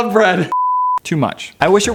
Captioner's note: beep